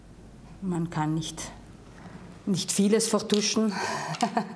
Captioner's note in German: Sie lacht